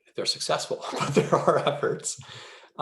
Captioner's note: giggles